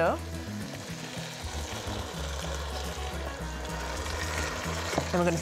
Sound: pot sizzling

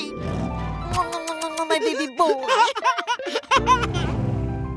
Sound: giggling

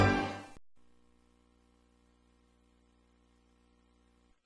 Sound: quiet VHS static

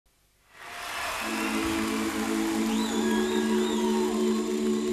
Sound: audience cheers and applauds

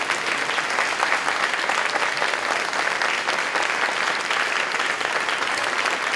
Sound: applause

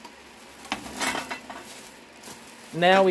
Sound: metal clanging

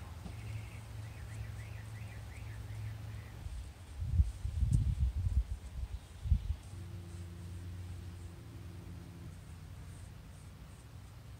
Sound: thud; wind, birds, and paint brush strokes

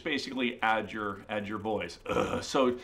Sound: low groan

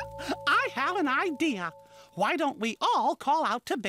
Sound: chuckles

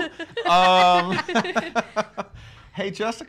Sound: everybody laughs

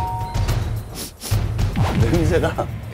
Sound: sniff

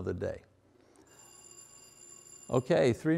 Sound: bell rings

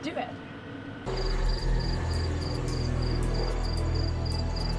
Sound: crickets

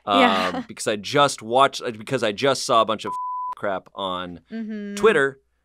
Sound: beep

